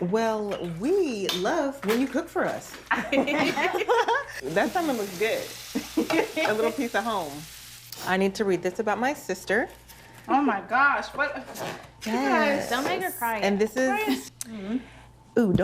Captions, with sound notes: -Well, we love when you cook for us. [ Laughter ] -That salmon looks good. A little piece of home. I need to read this about my sister. -Oh, my gosh. What -- Guys. -Don't make her cry. -And this is...